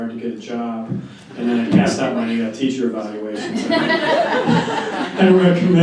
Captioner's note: laughter